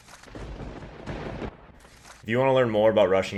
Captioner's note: thunder crash